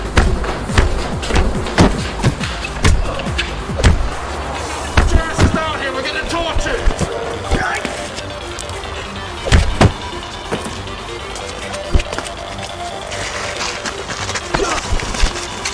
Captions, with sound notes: (Kicks thudding) - Get your asses down here, we're getting tortured! (Thug groaning)